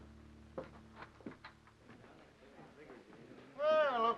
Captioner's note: door opens